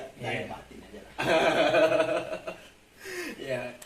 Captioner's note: sfx: laugh wkwkwk